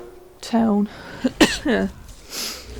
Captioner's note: cough